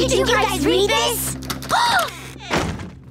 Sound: gasping

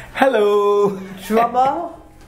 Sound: laugh

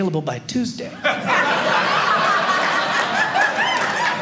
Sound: audience laughing

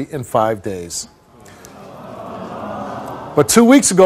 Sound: audience awws

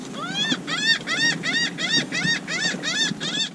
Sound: bird squawking

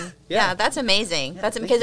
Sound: chuckles

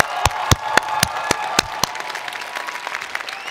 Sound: applause

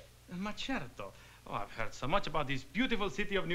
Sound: speaking italian

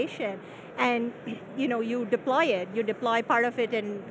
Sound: clearing throat

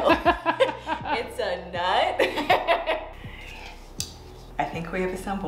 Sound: laughs; laughs

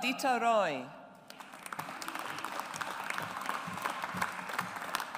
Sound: audience applauds

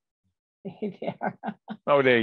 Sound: laughs

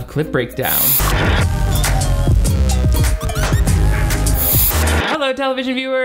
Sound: distorted music; static screeching

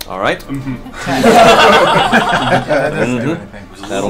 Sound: all laugh

